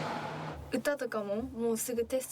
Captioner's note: speaking in foreign language